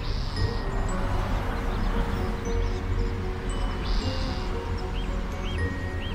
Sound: birds chirping; traffic humming

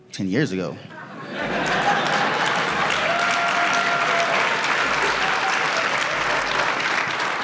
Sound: audience laughs; audience claps

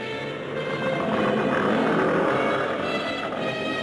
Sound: Gammera groans

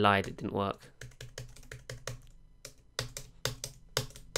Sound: keys tapping

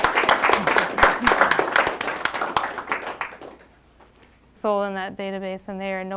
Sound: applause

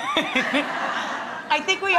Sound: audience laughing

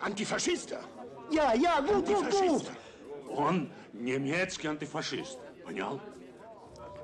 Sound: speaking German

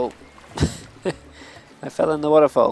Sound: laughs

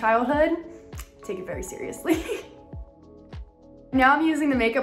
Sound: chuckles

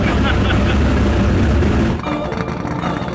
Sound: laughing; dramatic music

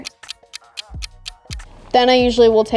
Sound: clock ticking

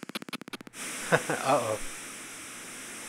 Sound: laughs

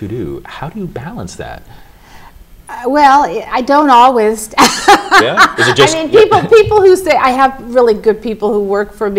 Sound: laughter

